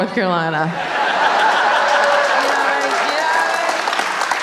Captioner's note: audience laughing